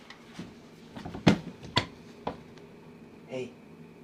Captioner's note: camera thuds